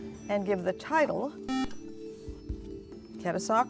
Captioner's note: buzzer